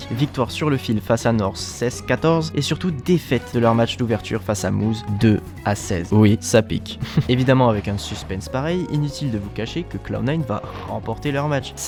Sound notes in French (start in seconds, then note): 7.0 rires